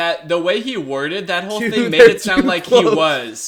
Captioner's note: laughing